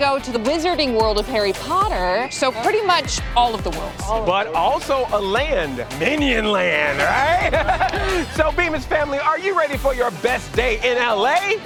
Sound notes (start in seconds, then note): 6.8 chuckles